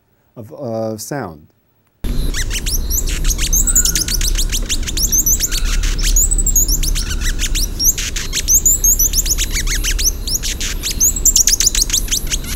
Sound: hummingbird song

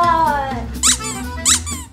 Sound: squeak

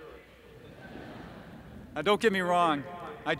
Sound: laughter

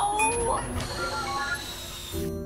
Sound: beeping

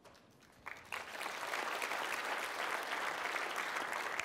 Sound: applause

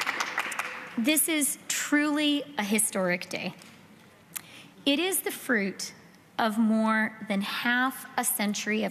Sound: applause

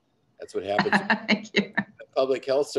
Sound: laughs

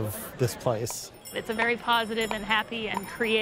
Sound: bells chiming

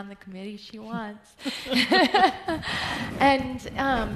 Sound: laughs

